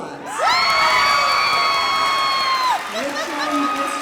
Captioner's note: cheers and applause